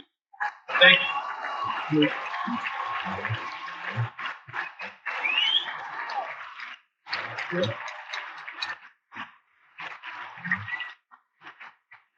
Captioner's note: cheers and Applause